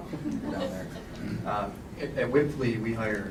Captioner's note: laughter